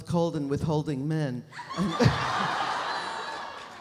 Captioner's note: audience laughs